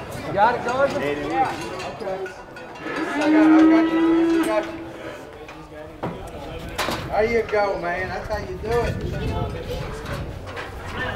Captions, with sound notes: (men chattering) (bull mooing loudly) - There you go, man, that's how you do it!